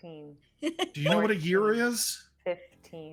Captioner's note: laughing